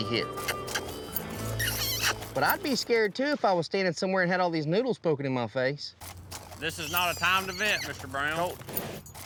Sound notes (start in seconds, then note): 2.2 makes squeaky sound